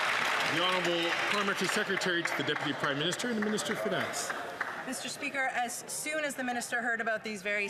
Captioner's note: some Applause